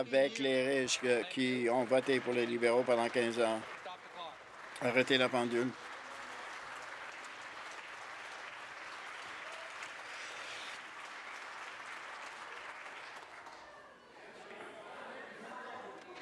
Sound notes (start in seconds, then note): 4.3 applause